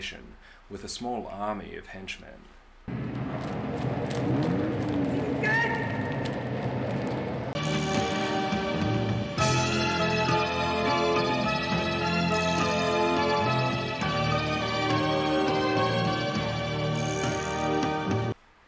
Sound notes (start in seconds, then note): 2.8 machine humming, footsteps, indecipherable shout; 7.5 slow music